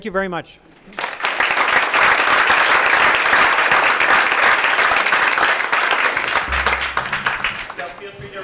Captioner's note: applause